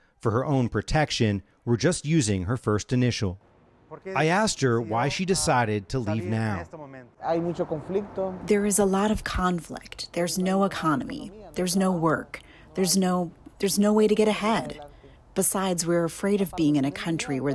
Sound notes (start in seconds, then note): 7.6 through translator